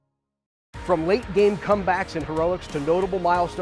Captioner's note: fans cheering